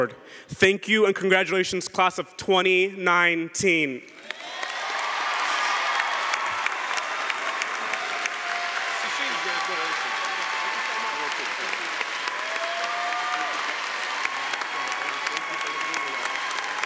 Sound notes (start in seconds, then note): 4.2 cheering & Applause